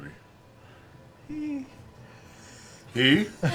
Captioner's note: high-pitched 'hee' sound